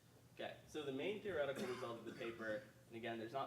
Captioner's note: coughing drowns out speaker